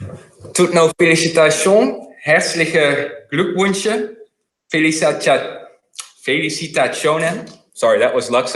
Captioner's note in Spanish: algunas frases en luxemburgués